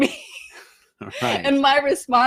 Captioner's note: laughing